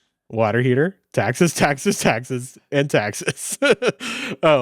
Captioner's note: laughs